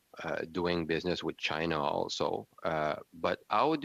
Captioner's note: speaking French